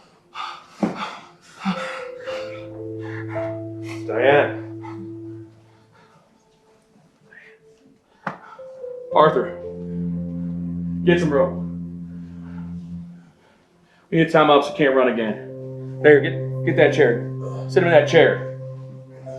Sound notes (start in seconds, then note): 3.1 cries; 19.1 somber music